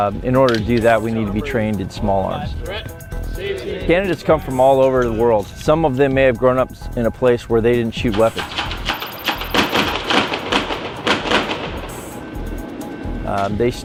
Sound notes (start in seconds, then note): 8.1 weapons firing; 10.8 unsettling minimal music continues